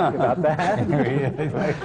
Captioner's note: laughter